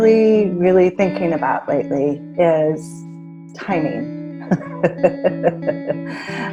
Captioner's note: laughs